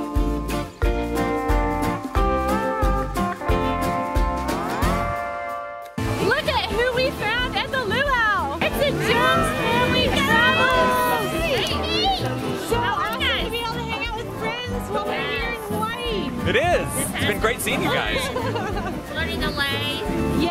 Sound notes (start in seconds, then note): 11.0 family cheers; 17.7 laughs